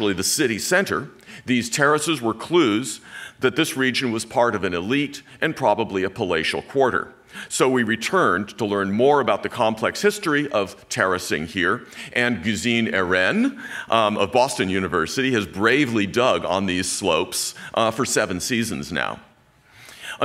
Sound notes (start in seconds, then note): none